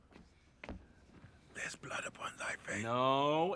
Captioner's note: whispering